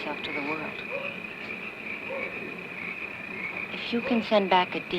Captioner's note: dog barking